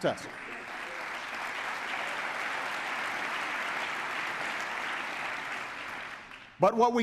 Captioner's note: applause